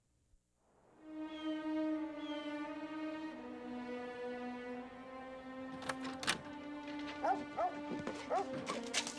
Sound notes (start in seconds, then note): 1.1 birds chirping; 7.2 Striker barking